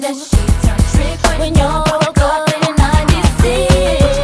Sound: vocalizing

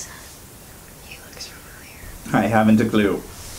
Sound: whispering; whispering

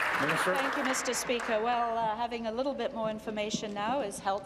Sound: applause

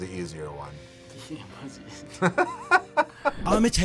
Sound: both laugh

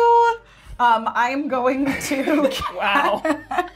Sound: laughs

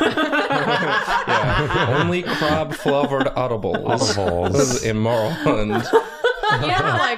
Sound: laughter

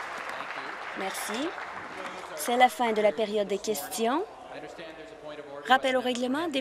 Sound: applause

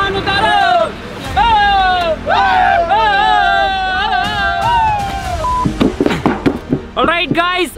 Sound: cheering

